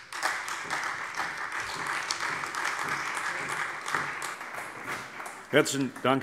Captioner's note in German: Beifall Freie Demokraten und vereinzelt CDU und SPD